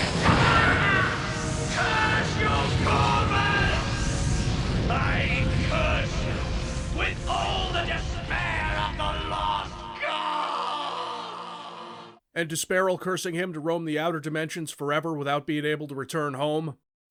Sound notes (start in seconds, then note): 0.0 groans, grunts; 0.2 fwoosh!; 11.4 echoes